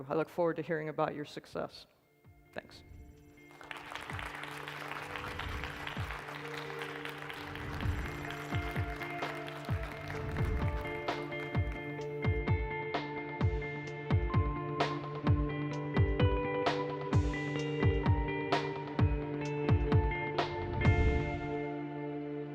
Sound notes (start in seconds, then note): 3.6 applause; 11.9 light music